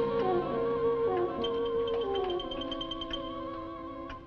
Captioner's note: clock ticking